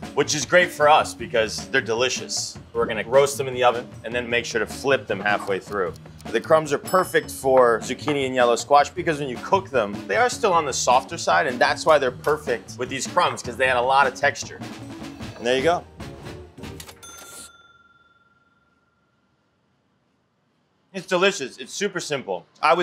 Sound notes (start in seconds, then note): 16.5 upbeat music; 16.8 cash register dings